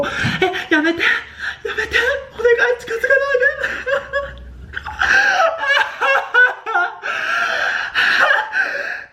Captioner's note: crying turns to laughter